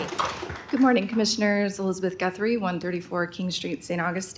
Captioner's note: applause